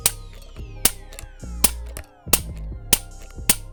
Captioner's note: gun clicking